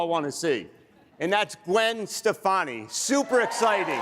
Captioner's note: applause